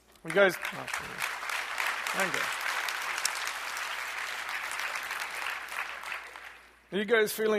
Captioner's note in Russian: аплодисменты